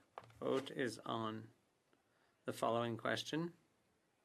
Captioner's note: speaking French